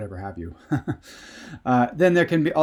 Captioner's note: laughs